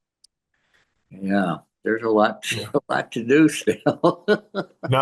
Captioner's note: laughs